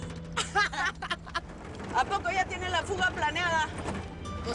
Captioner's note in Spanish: Risas